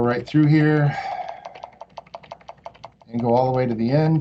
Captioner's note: mouse clicking